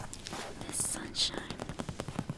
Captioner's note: taps